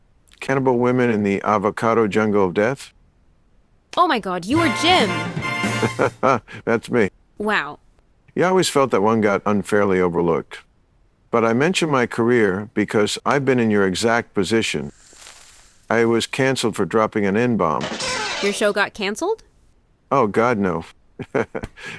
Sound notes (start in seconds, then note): 5.0 jazz band accent